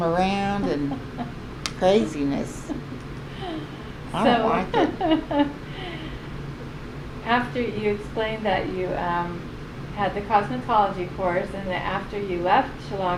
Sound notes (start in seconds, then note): 3.6 laughs